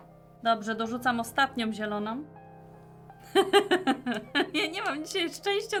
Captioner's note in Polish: śmiech